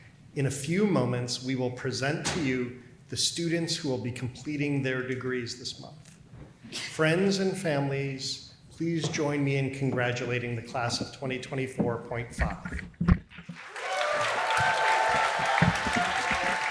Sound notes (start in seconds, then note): 13.5 applause